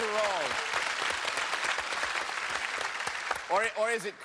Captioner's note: cheers and applause